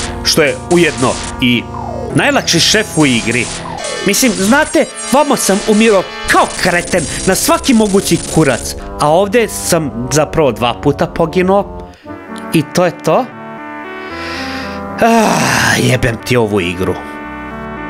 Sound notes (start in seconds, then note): 15.0 sigh